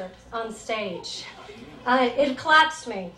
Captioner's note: audience giggles